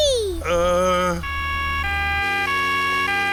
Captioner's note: siren wailing